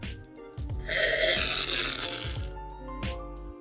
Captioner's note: slurping